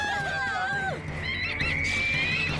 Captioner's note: birds shrieking